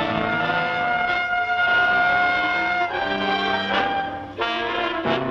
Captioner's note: siren wailing